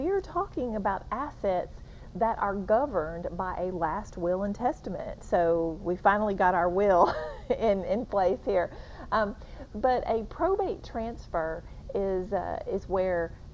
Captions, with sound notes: we are talking about assets that are governed by a last will and testament so, we finally got our will (laughs) in place here. But, a probate transfer is where the person